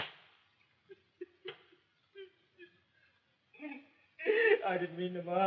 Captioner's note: slap; sobs